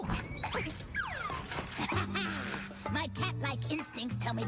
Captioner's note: gasps